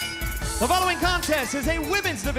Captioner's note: bell